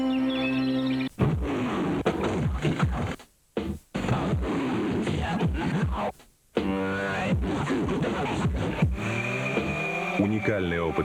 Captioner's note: the roar of the engine